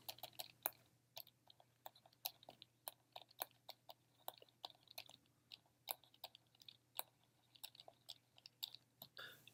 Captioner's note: typing